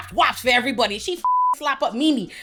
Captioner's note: beep